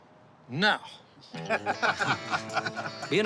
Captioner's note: guys laughing